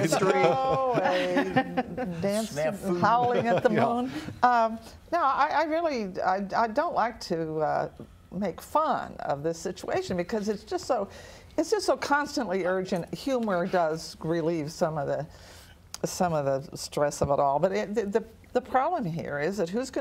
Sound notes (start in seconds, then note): 3.0 laughter